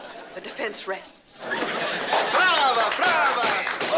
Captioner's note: Addamses applauding